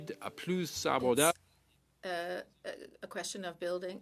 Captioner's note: speaking French